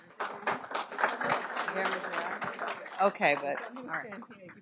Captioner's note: audience applauding